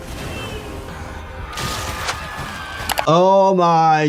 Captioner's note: dust cloud whooshes; people screaming; screen clicking